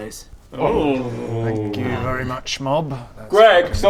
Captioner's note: ewww of horror